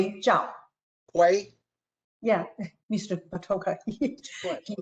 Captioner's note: laughter